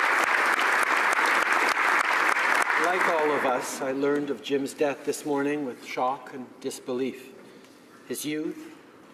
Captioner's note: applause